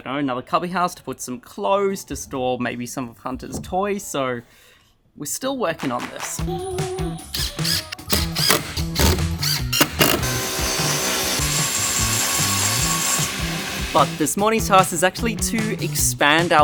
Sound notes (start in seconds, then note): 6.6 upbeat music; 7.4 machines whirring